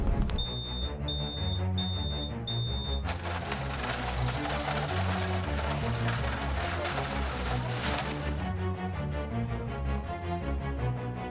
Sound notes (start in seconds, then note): 0.4 smoke alarm beeping